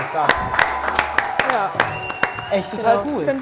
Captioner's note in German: Jubel, Pfiffe